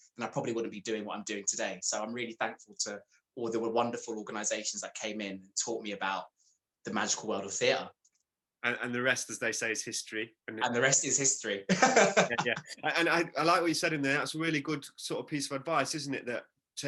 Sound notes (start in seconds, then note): 11.7 laughs